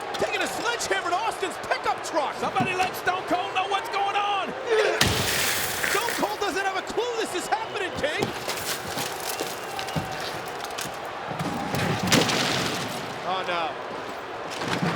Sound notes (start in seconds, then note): 4.7 Rikishi grunts; 5.0 glass shattering; 8.3 glass shattering; 11.3 cooler thudding